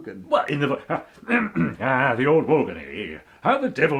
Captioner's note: clears throat